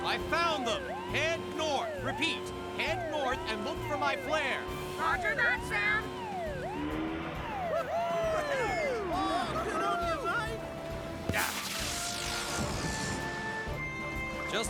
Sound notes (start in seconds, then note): 5.4 on Radio; 7.7 Tom & Moose Cheer; 11.2 whoosh!